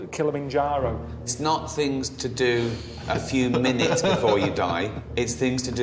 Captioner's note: laughs